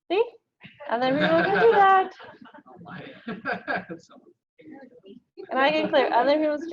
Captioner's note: audience laughing